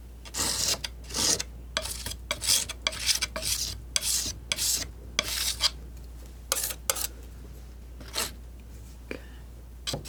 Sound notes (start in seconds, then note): 1.8 scratching